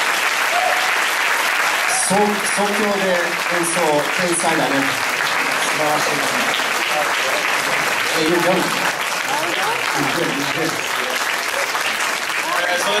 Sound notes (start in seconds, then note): 2.0 speaking in japanese; 5.0 applause